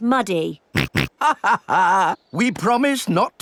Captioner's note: snorts; chuckles